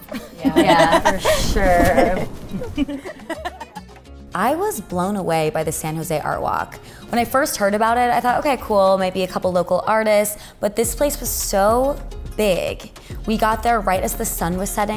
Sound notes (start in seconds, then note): 2.6 all laughing